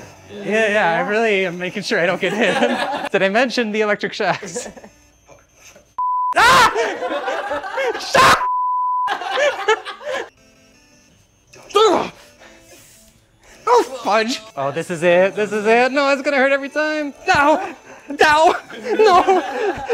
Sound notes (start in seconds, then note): 2.0 laughs; 6.3 laughs; 6.6 scream; 9.0 laughs; 17.2 laughs